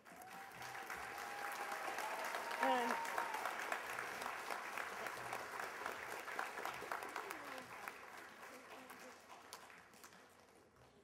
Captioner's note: applause